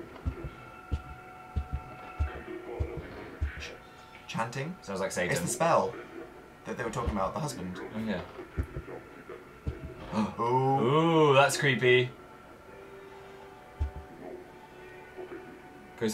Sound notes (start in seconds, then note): 0.1 garbled demonic chanting; 8.6 garbled demonic chanting; 9.8 gasps; 13.6 garbled demonic chanting, far-off music